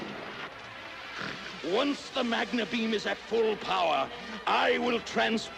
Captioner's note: snort